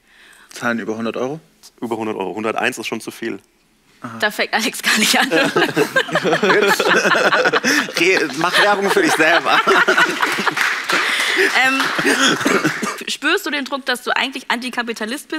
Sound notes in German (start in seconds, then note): 5.7 Lachen, Unverständlich; 10.2 Applaus